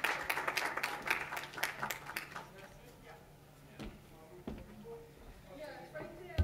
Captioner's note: clapping